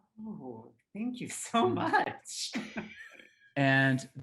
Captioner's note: laughing